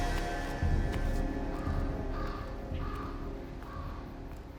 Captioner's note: bird squawking